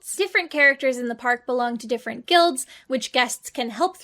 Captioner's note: none